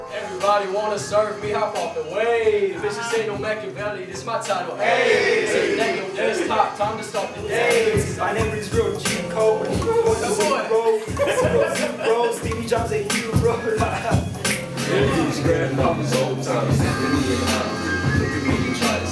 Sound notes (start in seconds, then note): 14.8 laughing; 16.2 rap music